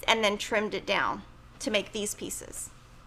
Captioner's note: none